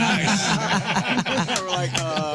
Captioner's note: laughing